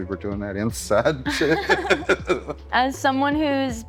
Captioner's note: laughter